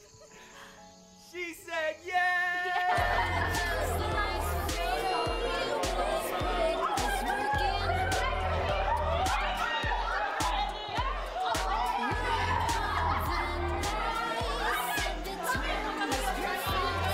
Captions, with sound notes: - She said yes! (people chattering) (upbeat pop music)